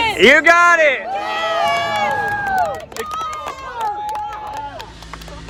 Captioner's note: cheering